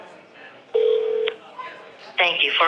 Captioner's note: phone ringing; electronic Voice